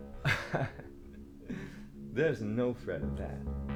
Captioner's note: Captain Brookes laughs